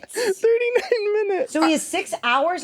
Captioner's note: laughs